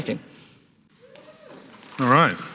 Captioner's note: attendee cheering; audience applauding